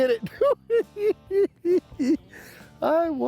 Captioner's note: laughing